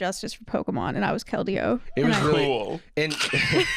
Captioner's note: mockingly; laugh